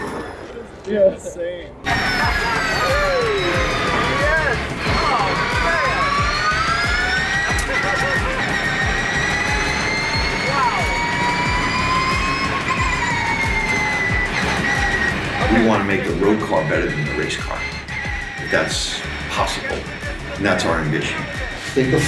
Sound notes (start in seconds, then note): 2.0 car whirring; 8.1 laughs; 8.9 car whirring